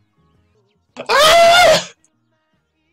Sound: girly scream 2

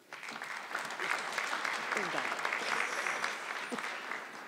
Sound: audience clapping

